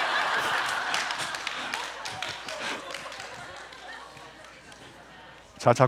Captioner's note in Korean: 박수